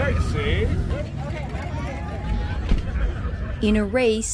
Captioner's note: people chattering loudly